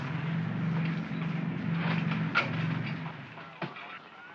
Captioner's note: aircraft rumbles